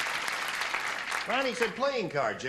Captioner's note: clapping